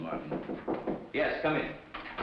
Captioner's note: knocking